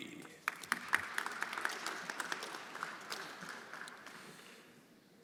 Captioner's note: everyone applauding